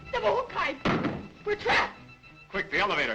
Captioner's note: door slams